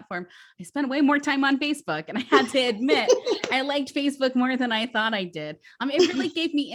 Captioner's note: laughs